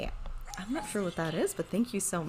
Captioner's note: whispers